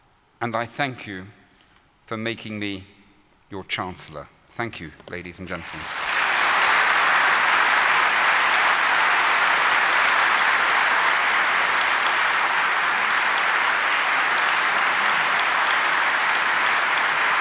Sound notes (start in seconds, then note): 5.4 applause